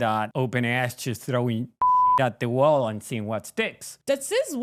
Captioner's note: beep